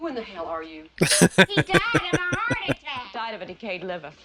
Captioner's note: laughing